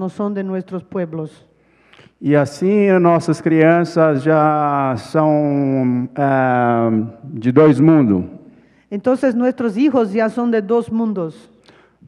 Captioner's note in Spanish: ponente habla en portugués